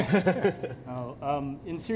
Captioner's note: laughter